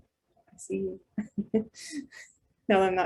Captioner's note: chuckles